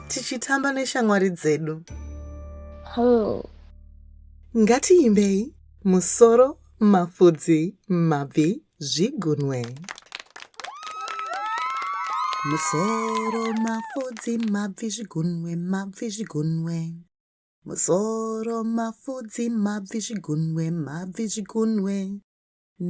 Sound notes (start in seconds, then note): 9.3 applause